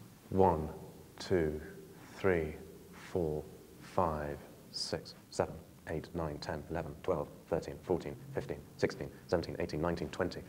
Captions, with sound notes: One, two, three, four, five, six, [AUDIO SPEEDS UP] seven, eight, nine, ten, eleven, twelve, thirteen, fourteen, fifteen, sixteen, seventeen, eighteen, nineteen, twenty,